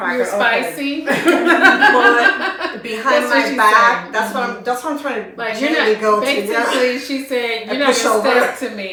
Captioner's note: laughter